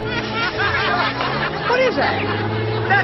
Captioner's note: people laughing